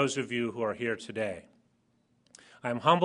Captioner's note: none